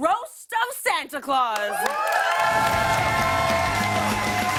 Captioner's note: cheers and applause